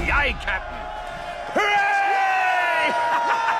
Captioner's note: all cheering